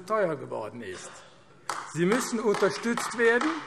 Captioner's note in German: Beifall AfD